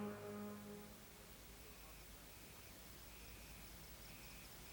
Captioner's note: insects chirping